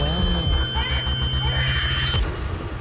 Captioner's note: high pitched tone; baby cries; dramatic musical score